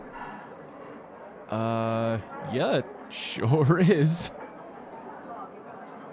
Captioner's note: chuckles nervously